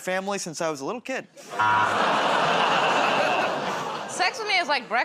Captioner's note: buzzer; audience "Oh"s